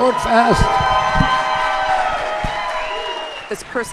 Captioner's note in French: cheering